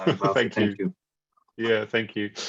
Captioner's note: laughs